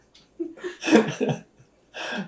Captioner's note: laughter